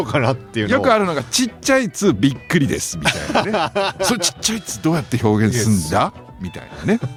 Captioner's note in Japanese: 笑い